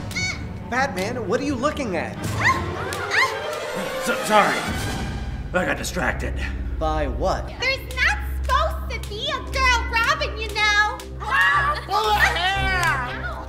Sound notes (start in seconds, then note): 4.3 stammers